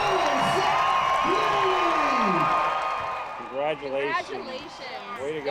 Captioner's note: cheers and applause